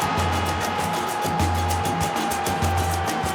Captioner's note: crowd roaring